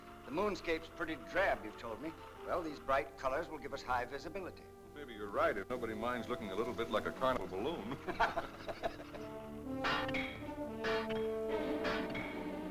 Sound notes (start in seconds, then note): 7.8 laughter; 9.8 dramatic music; 10.8 metal clanking sound